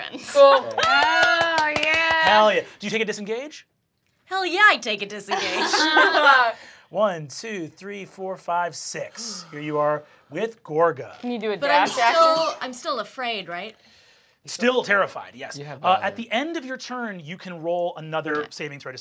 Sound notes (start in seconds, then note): 0.6 applauds; 5.3 laughing